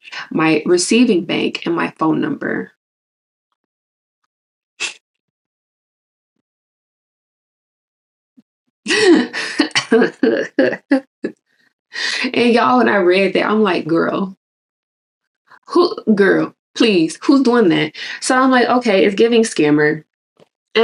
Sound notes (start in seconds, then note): 4.7 laughs in disbelief